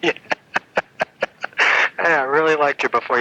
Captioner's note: laughs